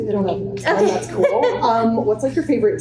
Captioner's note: chuckles